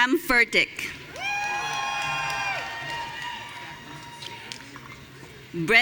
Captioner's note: audience cheering